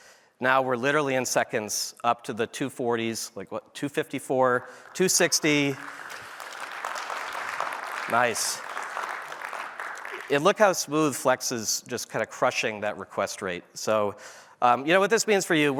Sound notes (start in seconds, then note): 4.4 applause